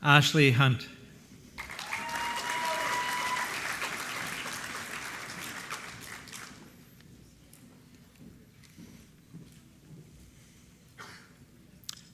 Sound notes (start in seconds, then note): 1.5 applause